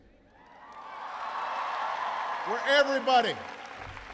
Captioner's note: applause